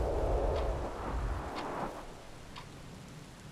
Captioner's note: clock ticking